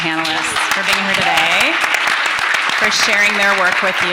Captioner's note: everyone applauding